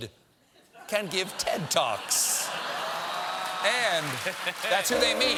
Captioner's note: laughter